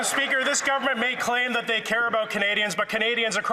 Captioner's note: some Applause